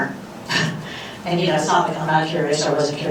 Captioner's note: laughs